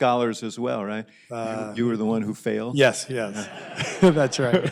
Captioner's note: laughter